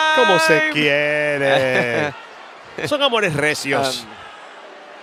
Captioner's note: laugh